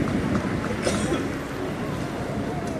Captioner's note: light applause